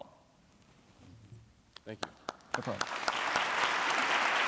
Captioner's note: applause